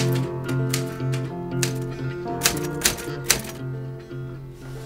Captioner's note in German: Geräuche vom Tippen einer Schreibmaschine